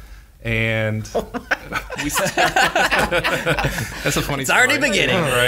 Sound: laughing

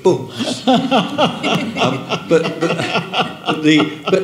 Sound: people laughing

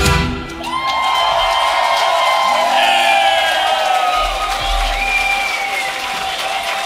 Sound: cheering

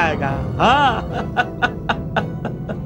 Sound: laughs

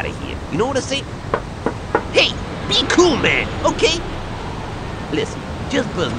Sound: Tanner knocks on phone booth door

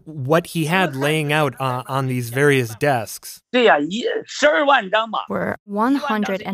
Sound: speaking Mandarin; speaking Mandarin

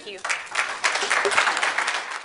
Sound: crowd applauds

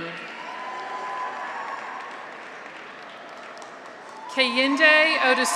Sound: audience applauds; graduates cheer

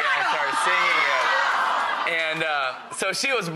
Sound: audience cheering

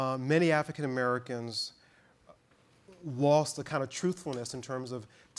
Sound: none

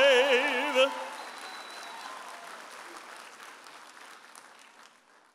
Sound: audience applauding and cheering

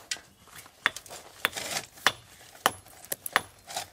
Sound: hammering

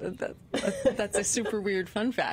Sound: laughter

